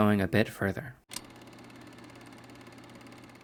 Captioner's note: projector Humming